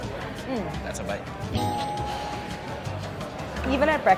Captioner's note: bell dinging